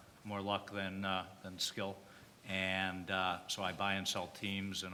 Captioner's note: none